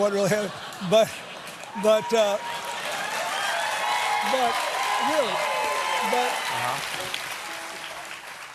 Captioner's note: laughter; applause